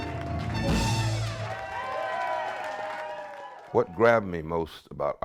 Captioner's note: audience cheering